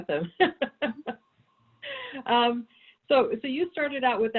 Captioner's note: laughs